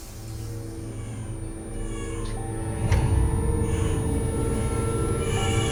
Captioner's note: ominous music; baby crying